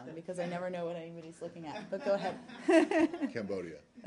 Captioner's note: laughter